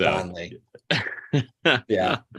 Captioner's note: laughing